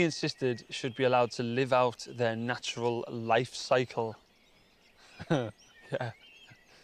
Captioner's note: laughing